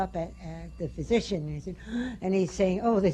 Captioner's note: draws breath